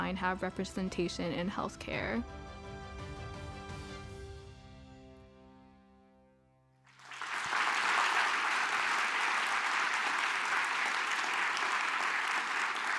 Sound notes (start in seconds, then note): 6.8 audience applauds